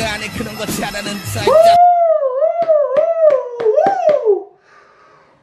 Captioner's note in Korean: 짝짝짝